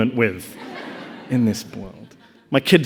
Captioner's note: audience laughing